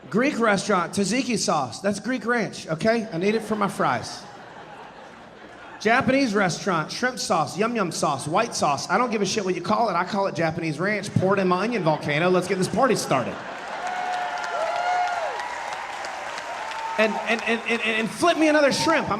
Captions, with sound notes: Greek restaurant, tzatziki sauce, that's Greek ranch, okay? I need it for my fries. (audience laughing) Japanese restaurant, shrimp sauce, yum yum sauce, white sauce, I don't give a shit what you call it, I call it Japanese ranch poured on my onion volcano, let's get this party started. (audience laughing, cheering and applauding) and flip me another shrimp,